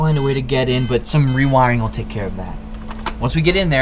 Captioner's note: computer beeps